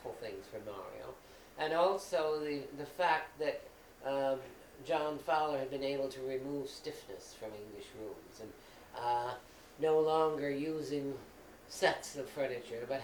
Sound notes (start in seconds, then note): none